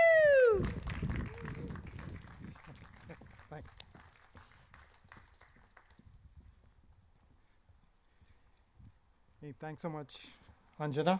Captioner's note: applause